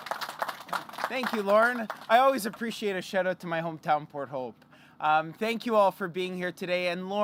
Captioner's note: applause